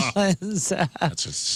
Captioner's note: laughing